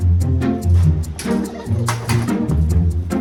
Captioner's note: clatter intensifies